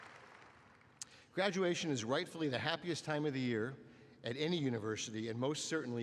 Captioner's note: applause